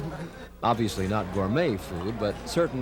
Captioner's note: laughter